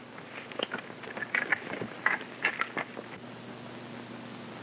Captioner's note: hooves clopping